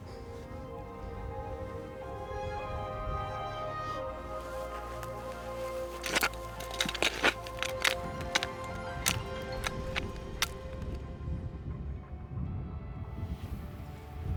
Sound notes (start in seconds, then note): 0.6 gentle music; 7.0 paddle scraping; 11.2 gentle music